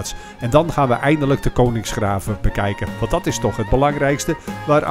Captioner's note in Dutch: Voiceover